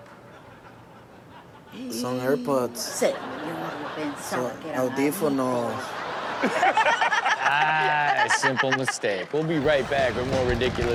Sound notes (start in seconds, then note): 3.2 woman speaks foreign language